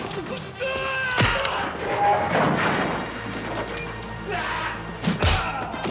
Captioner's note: furniture crashing